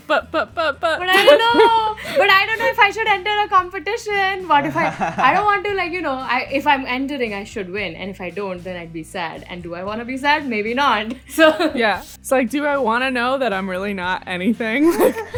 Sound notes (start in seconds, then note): 1.2 laughs; 10.8 laughter; 14.8 laughs